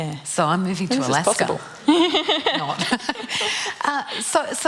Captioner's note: laughter